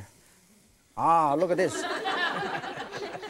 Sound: audience laughs

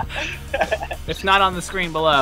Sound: laughs

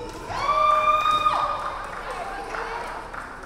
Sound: crowd cheering

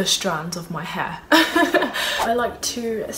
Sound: laughing

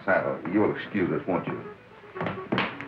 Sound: door knocking

